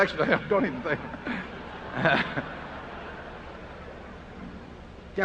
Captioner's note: laughter